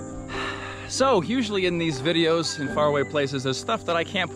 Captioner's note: sighs